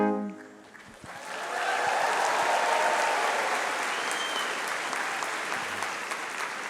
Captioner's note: audience cheering and applauding